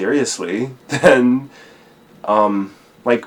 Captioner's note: laughs